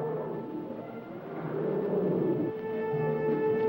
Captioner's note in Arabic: أنين الفيل; موسيقى احتفالية مشؤومة